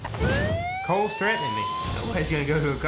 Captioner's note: tense music; police sirens wail